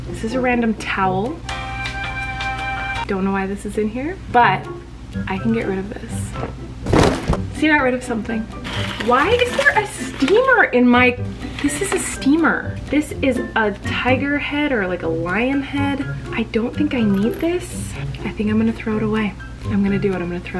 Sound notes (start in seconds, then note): 0.9 upbeat music; 6.8 thudding